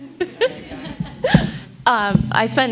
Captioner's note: laughs